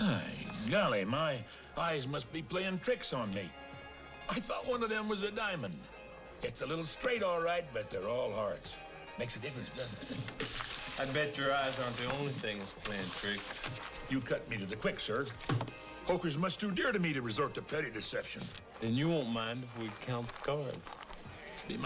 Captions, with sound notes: - I golly, my eyes must be playing tricks on me. I thought one of them was a diamond. It's a little straight all right, but they're all hearts. Makes a difference, doesn't it? (money rustling) - I bet your eyes aren't the only things playing tricks. - You cut me to the quick, sir. (deck thumps) Poker's much too dear to me to resort to petty deception. - Then you won't mind if we count the cards.